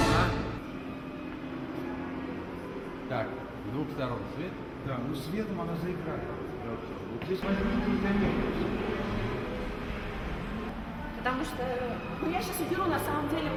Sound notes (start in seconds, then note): 3.0 man speaking in the Russian language; 7.0 people chattering in the Russian language